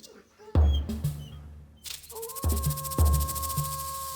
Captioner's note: wolf howling